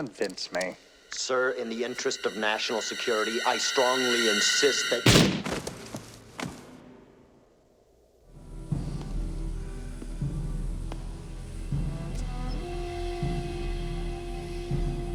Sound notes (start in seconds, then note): 5.0 gunshot